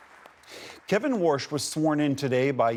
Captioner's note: applause